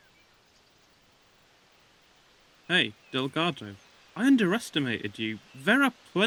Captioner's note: leaves rustling